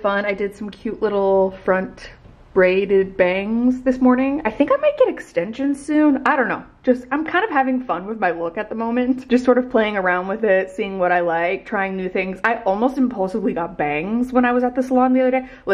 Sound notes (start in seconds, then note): none